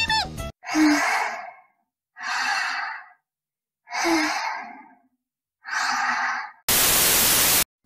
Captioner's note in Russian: Дыхание Бойси